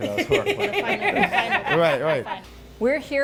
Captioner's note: laughter